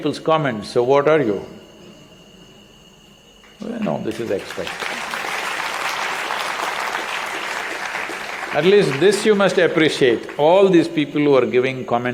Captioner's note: applause